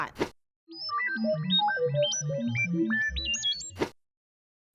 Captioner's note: electronic beeping